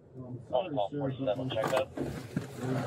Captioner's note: radio chatter